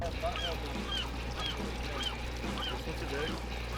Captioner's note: birds cawing